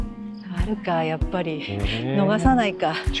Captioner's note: laughs